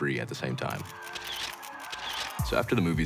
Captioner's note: flashes going off